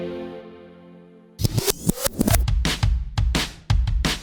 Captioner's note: record skipping; upbeat music